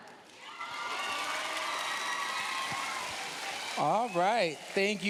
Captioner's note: cheers, applause